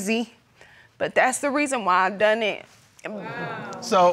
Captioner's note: tearfully